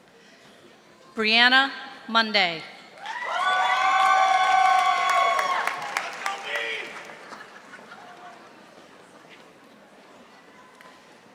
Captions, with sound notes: Brianna Monday. (audience applauding)